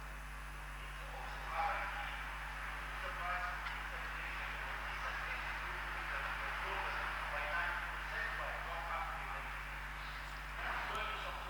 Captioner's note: applause